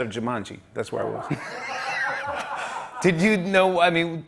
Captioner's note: laughter